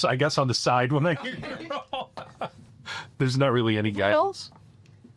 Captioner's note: laughing